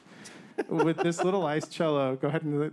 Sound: man laughing

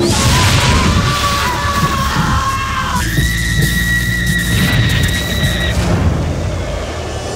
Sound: shrieking yell!

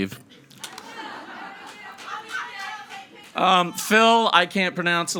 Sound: audience chattering

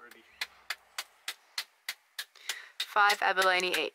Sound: smacking

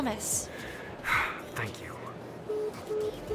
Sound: quick deep breath

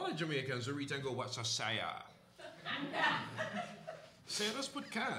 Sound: laughter

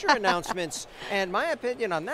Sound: laughing

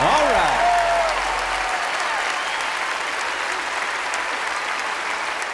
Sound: cheers and applause

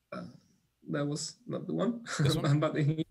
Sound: laughs

